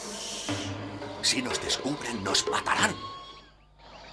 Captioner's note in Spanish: Fog susurra